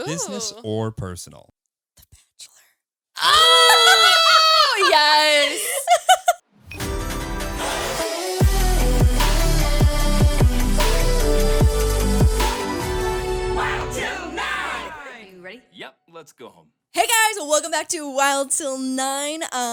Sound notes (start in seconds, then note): 2.4 whispers; 6.7 upbeat music